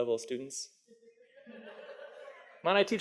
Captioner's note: audience laughs